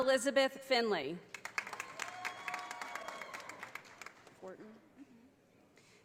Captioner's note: audience applauding